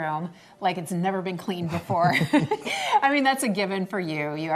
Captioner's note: laughs